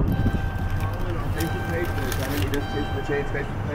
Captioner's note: beeps